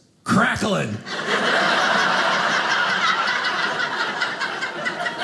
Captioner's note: audience laughing